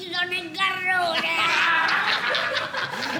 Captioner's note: all laughing